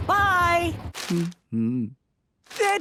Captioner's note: humming